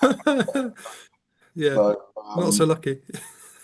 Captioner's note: laughs